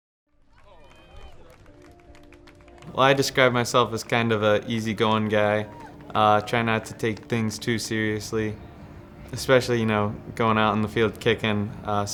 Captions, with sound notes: - Go Green! (spectators applauding) - Well, I describe myself as kind of a easygoing guy. I try not to take things too seriously, especially, you know, going out in the field, kicking.